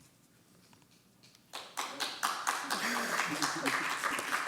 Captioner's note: applause